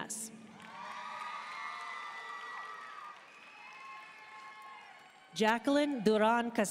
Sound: audience cheering and applauding

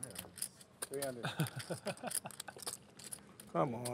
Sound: laughter

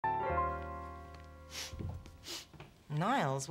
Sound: sniffs

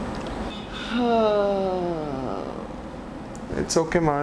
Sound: man sighing

